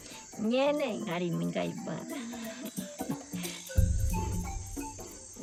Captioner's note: speaking in foreign language